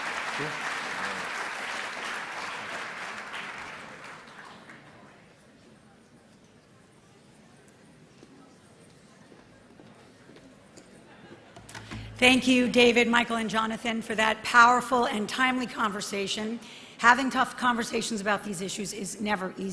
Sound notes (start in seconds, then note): 1.6 applause